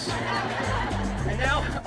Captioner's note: audience laughing